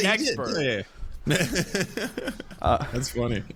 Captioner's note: laughing